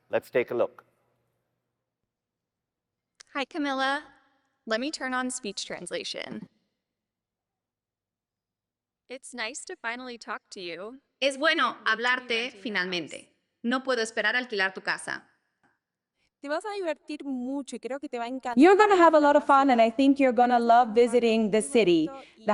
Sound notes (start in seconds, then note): 11.4 speaking spanish